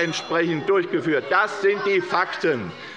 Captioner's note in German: Unruhe - Glockenzeichen des Präsidenten